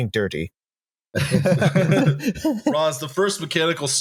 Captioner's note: laughter